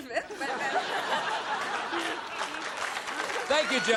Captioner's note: laughter